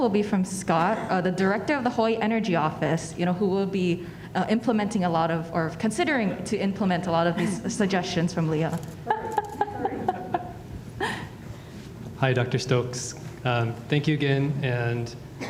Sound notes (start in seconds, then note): 9.0 laughing